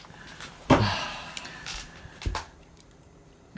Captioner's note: sigh